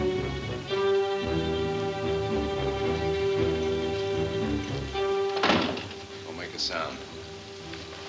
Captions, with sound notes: (door closes) - Don't make a sound.